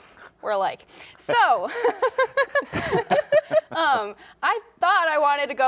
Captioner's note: laughs